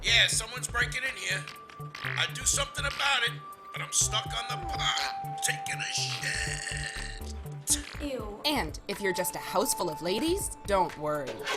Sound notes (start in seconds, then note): 1.2 fart; 5.2 fart